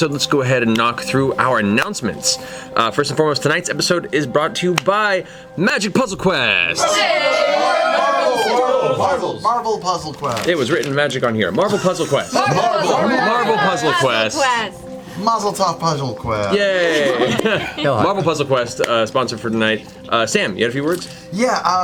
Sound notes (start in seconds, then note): 6.7 all cheer